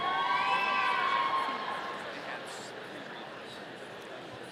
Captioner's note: audience cheering